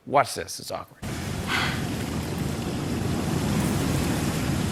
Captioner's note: sighs